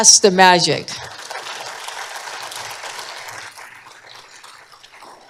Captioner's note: applause